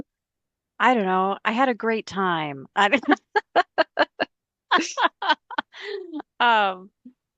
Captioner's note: laugh